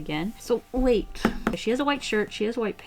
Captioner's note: tap, tap